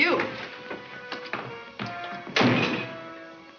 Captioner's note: door slams